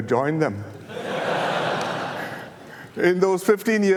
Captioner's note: audience laughter